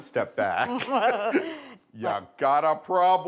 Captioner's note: both laughing